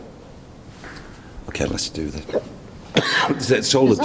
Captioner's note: coughing